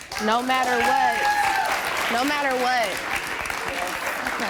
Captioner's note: applause